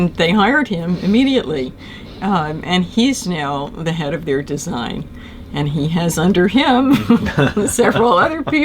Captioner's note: laughter